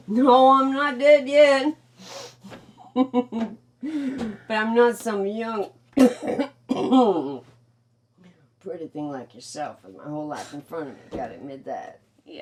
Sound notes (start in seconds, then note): 2.8 chuckles; 5.9 coughing